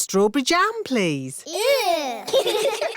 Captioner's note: giggling